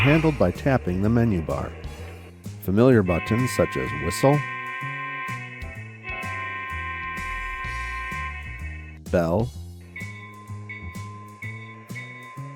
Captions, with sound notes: are handled by tapping the menu bar. Familiar buttons such as whistle, (whistle sounds) bell, (bell clangs)